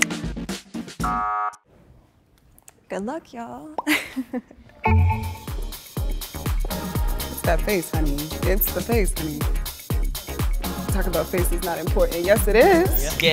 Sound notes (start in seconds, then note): 1.0 buzzer sound; 4.8 upbeat music